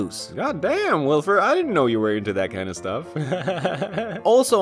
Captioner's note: chuckles